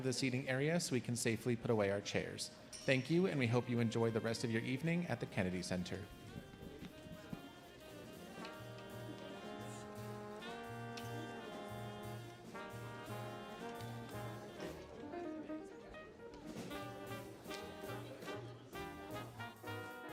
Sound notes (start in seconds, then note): 6.9 audience murmuring; 6.9 relaxing music